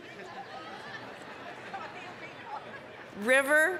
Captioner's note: audience laughing